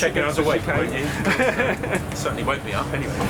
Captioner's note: laughing